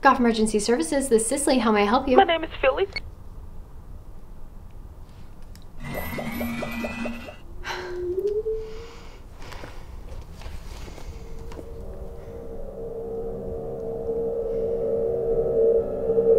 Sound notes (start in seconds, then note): 5.8 beeping off; 5.8 electric whooshing; 12.3 ominous music